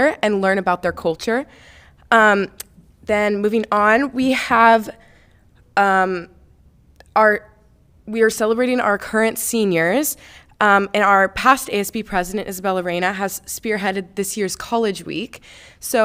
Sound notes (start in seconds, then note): none